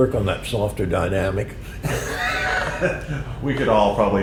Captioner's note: laughter